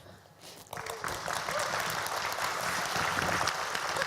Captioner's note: applause